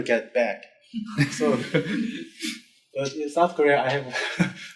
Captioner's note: group laughing